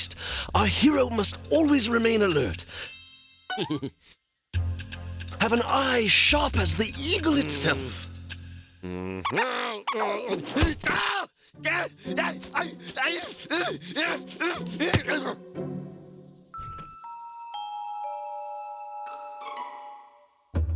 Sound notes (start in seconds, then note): 3.5 chuckles; 8.8 grunting; 11.6 groaning